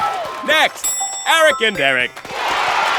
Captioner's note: cheering